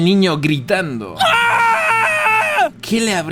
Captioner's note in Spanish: gritos